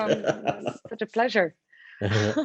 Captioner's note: laughs